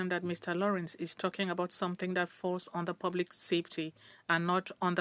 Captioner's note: speaking French